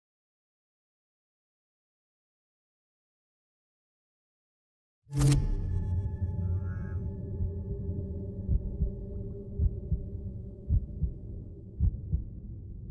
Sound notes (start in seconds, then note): 8.5 heartbeat thumping